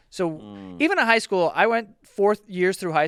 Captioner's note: none